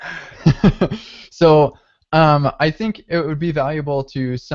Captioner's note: laughing